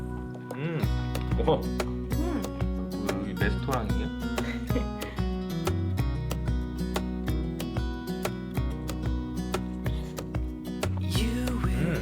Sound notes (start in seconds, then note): 4.4 laughter